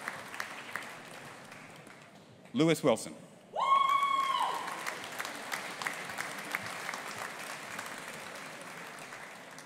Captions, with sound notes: Lewis Wilson. (AUDIENCE APPLAUDING AND CHEERING)